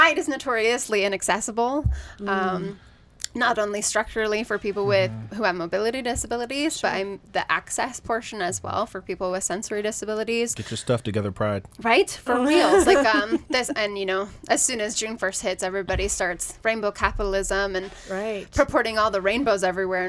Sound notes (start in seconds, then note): 12.3 woman laughs